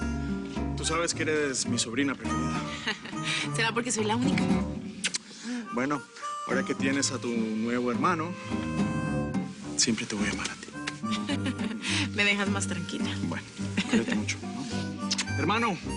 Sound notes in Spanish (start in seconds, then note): 2.7 Risas; 11.0 Risas